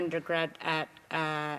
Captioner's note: speaking indigenous languag